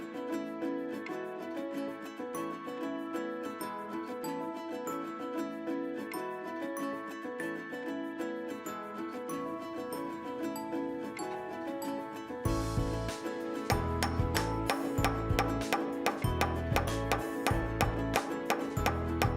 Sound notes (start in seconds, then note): 13.7 tool banging; 16.1 upbeat music